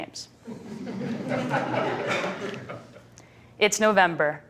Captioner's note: laughter